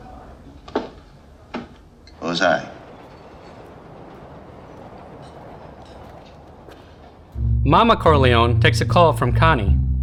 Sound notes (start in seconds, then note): 5.2 speaks italian